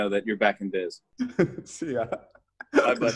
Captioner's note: laughs